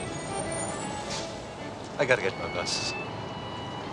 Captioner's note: bus brakes squealing